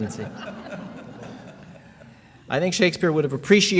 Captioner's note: laughing